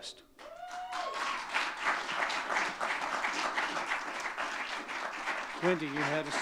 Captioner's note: audience cheering and clapping